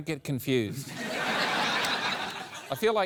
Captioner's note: laughter